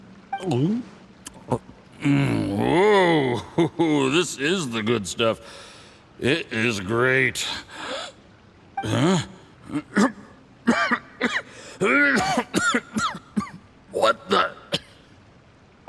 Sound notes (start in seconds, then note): 0.3 gulp; 10.6 cough